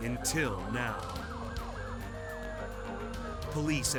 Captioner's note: sirens blaring